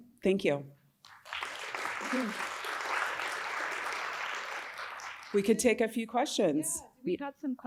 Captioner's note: applause